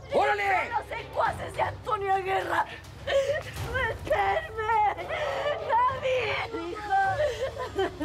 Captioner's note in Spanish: Sollozos